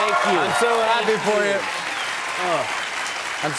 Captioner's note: cheers and applause